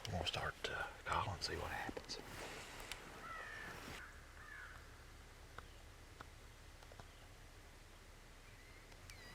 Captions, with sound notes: I want to start to call and see what happens. (bird squawking)